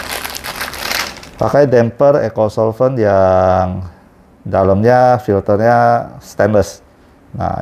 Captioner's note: plastic noise